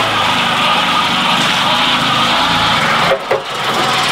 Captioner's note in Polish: szum silnika i zawieszenia